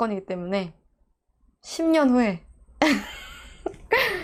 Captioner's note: laughing